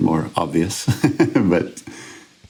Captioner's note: chuckles